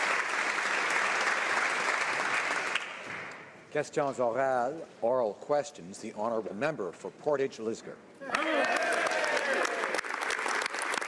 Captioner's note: some Applause; speaking French